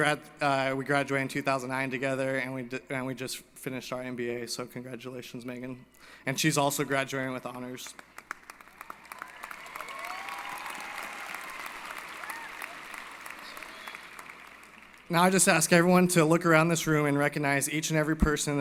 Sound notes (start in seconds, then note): 7.9 applause & Cheering